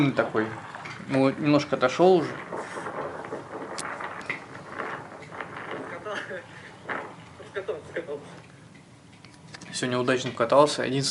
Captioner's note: Sounds from the video on the iPhone